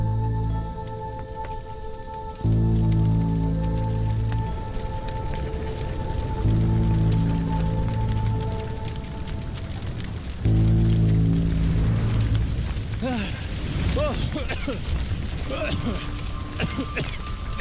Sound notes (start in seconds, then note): 14.8 coughing